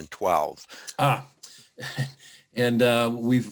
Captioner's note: chuckling